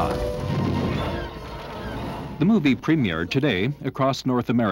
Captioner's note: laser fire